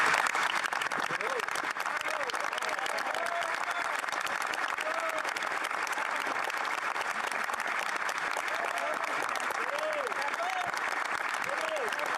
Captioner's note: applause